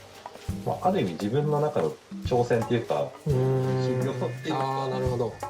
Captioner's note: laugh